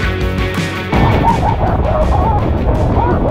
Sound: hahahaha

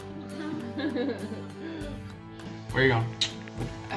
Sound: laughs

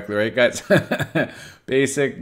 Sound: laughs

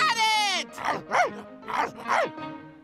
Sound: barking

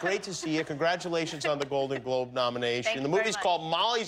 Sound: laughter

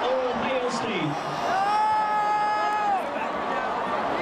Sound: crowd jeering

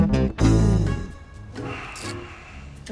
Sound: sighing

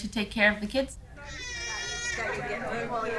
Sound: child cries

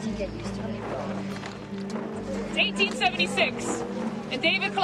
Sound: overlapping chatter

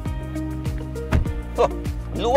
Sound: door thuds

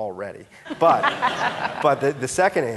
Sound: audience laughing

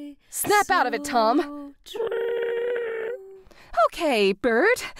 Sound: Tom still trilling

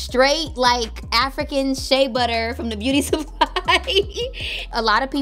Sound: laughs

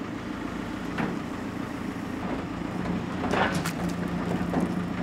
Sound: engine runs

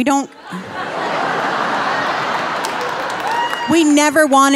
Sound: audience laughing and cheering

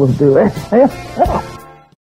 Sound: laughs

